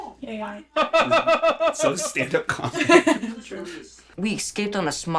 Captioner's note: laughs; laughing